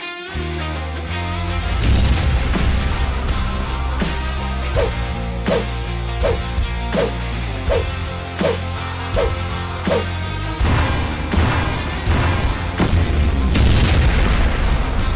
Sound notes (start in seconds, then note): 0.2 upbeat music; 1.8 explosion; 9.7 upbeat music